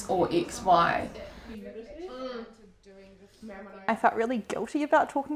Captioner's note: women chattering